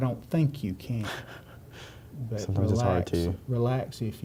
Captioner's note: laughs